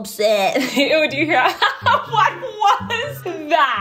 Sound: laughs

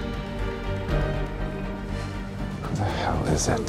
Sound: dramatic music; exhales

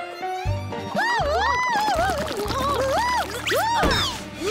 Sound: tango music playing; both exclaiming

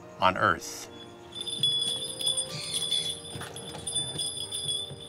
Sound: bells chiming

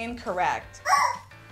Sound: shocked squeak

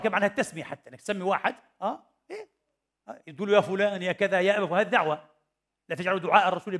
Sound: in Arabic

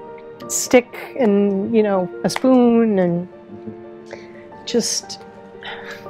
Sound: sighing

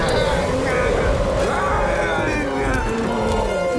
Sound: growling

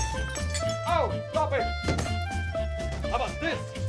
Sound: breaking glass

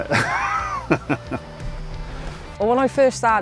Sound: laughs

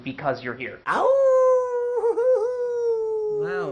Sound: howls like a wolf in roman's face

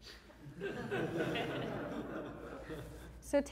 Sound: audience Laughing

